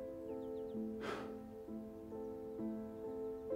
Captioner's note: scoffs